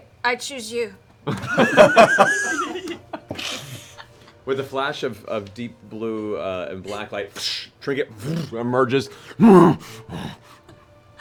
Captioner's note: bear noises